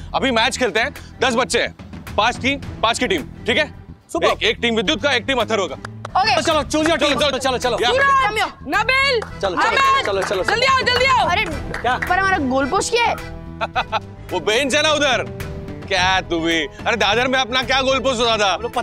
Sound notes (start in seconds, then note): 13.5 chuckles